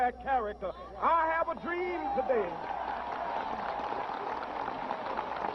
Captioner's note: cheers and applause